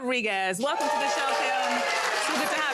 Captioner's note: audience cheering